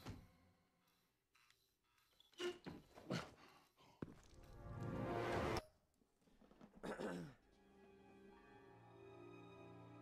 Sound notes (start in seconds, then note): 3.5 screech and panting; 6.8 throat clearing